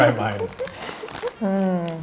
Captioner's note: laughing